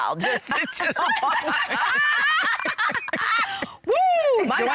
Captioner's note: laughter